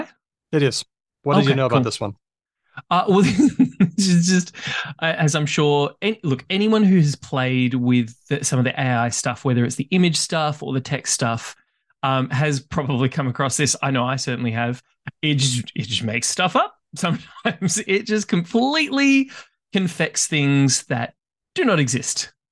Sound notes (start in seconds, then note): 3.0 laughs